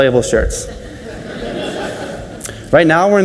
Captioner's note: audience laughs